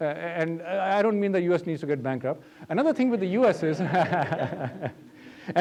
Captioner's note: laughter